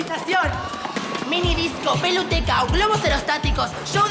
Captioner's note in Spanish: Gritos de niños